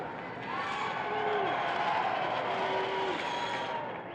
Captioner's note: crowd cheers